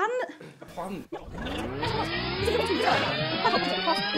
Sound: whirring

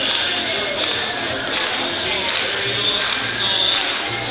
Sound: fans clap

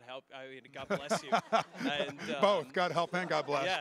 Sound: laughing

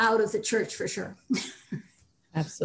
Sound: laughs

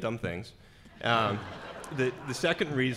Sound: laughing

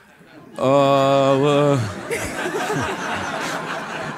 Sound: laugh

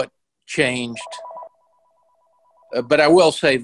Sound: ringing

